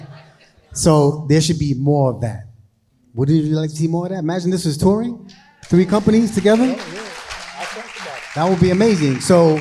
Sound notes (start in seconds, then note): 0.0 crowd laughing; 5.3 crowd applauding